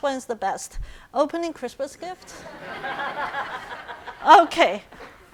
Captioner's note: audience laughing